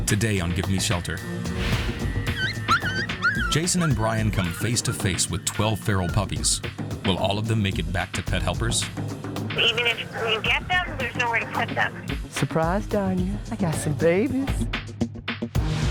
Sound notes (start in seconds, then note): 0.0 intense music; 2.1 puppies whining